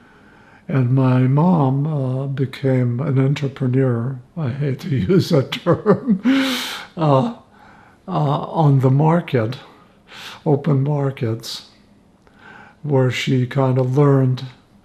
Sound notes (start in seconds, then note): 4.8 laughing